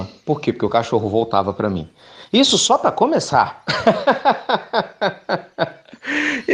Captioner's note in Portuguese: Risos